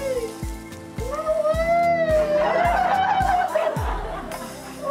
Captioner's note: laughter, cries of joy